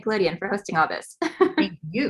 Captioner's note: laughs